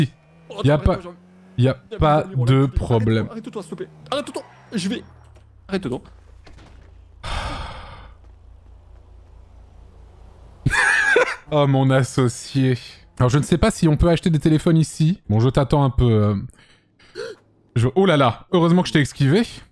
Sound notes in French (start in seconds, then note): 7.2 Dona soupire; 10.6 il rit